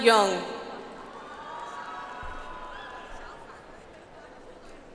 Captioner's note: audience applauds